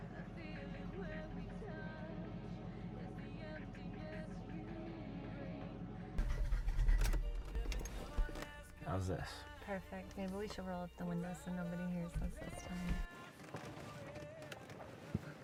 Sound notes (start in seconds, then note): 0.0 car engine starting; 6.2 car engine shuts off